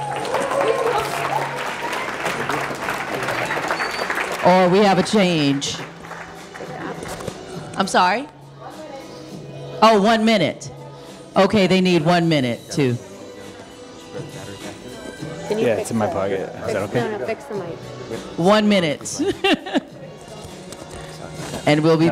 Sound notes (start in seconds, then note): 0.0 audience applauding; 3.4 audience cheering; 19.1 laughing